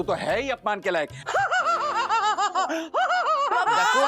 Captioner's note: laughs maniacally